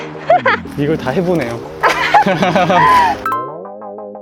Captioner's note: laughter